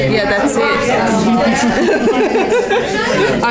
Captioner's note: participant chatter